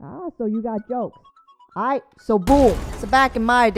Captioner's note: boom